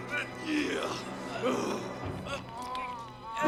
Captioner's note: Knox grunting